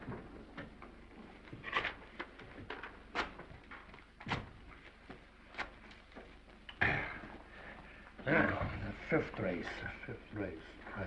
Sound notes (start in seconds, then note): 3.2 paper ripping; 6.8 sighs